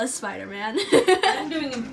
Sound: laughs

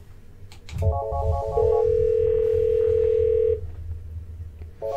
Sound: dialing and ringing

